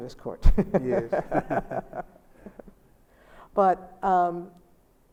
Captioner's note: Sonia and Albie laugh